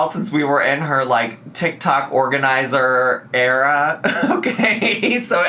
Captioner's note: laughs